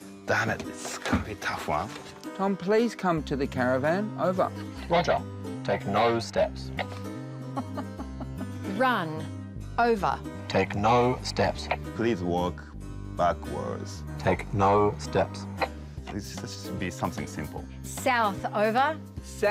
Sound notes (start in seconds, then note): 7.5 chuckles